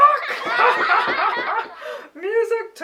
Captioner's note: laughter